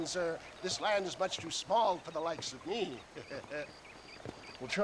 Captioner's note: laugh